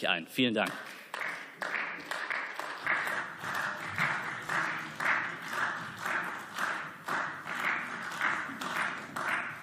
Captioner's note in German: Beifall